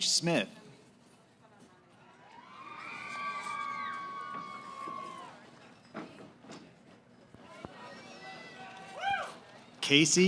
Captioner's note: cheering